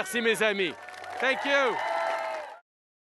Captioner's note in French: Applaudissements